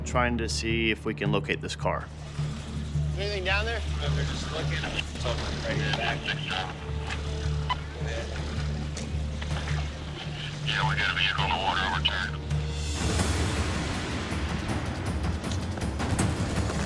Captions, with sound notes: trying to see if we can locate this car. [man on radio] [music intensifies]